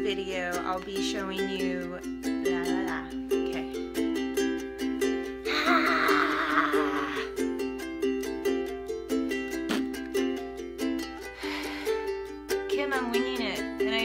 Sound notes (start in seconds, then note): 5.4 sighs